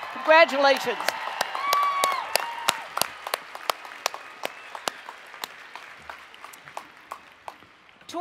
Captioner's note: cheering and Applause